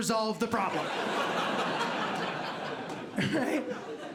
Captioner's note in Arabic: ضحك